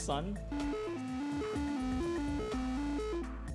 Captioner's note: tones playing